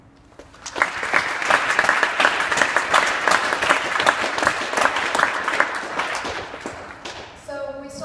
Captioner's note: clapping